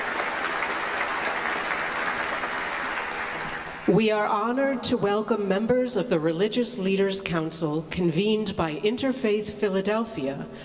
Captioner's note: applause